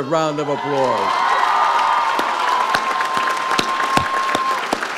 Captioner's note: audience applauds